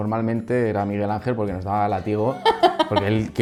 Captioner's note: laughs